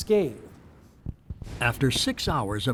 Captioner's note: cannon blasts